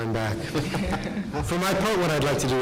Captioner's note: laughing